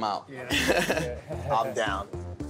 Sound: laughter

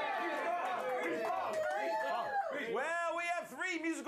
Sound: audience cheering

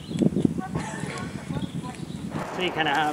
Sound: laughs

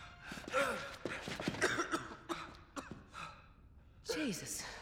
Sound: coughing

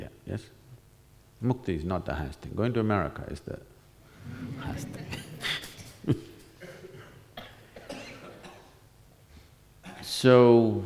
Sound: laughter

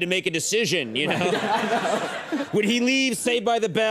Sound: Ken and the audience laugh

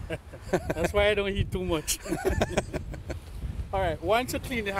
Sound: laughter

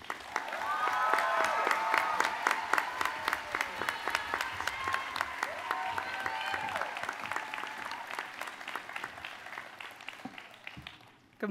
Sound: applause and cheers

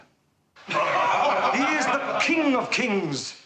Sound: men laughing

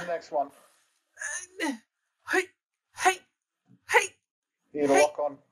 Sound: old person combat noises

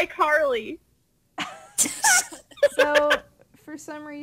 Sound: bar laughs

